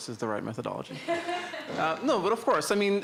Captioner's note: laughter